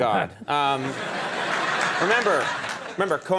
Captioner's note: audience laughing